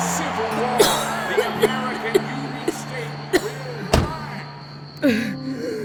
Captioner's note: Emily coughing; Emily sighing